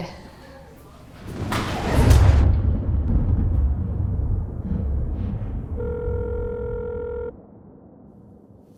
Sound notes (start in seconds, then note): 1.3 thunder roaring; 5.8 phone ringing